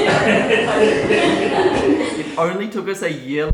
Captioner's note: laughing